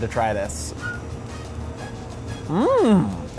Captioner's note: biting into frita